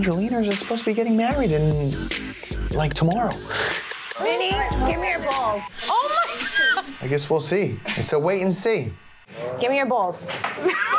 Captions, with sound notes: - Angeliners, you're supposed to be getting married in, like, tomorrow. (laughing) - Vinny, give me your balls. - Oh my god! - I guess we'll see. It's a wait and see. - Gimme your balls.